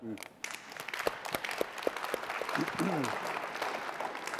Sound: audience clapping

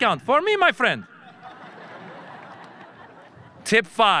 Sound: audience laughing

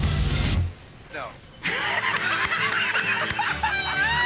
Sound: laughter

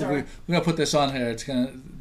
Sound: voiceover

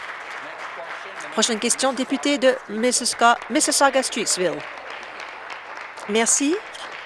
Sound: applause

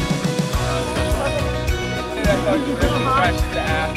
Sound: upbeat music; chattering

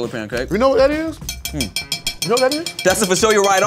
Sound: plate clinks

